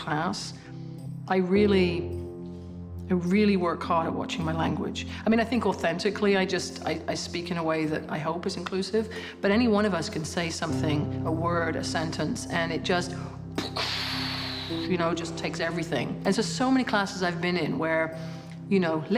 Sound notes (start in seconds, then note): 13.5 exhales